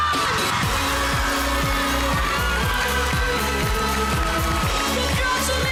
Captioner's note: audience cheering, clapping; theme music playing